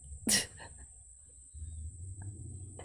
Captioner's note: chuckles